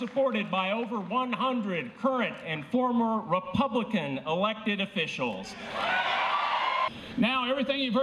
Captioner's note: applause